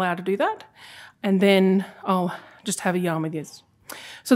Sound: non-english speech

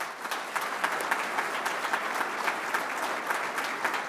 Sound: audience applauding

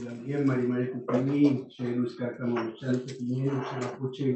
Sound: non-english speech

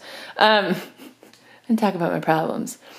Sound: soft Laughter

